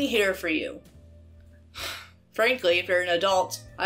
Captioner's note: sighs